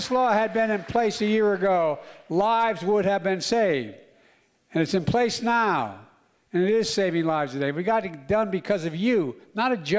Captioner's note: applause